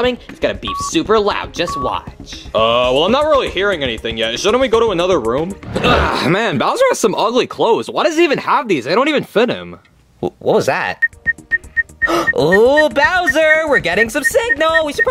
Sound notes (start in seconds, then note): 5.7 Mario grunting; 11.0 walkie beeping; 12.0 Yoshi gasping